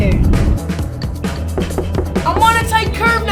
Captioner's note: knock, knock, knock